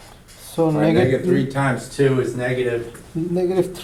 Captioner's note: voiceover